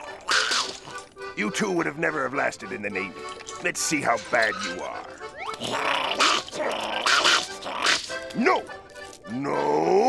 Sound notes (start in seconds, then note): 0.0 growls and barks; 5.5 growls and barks